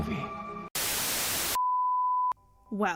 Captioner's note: static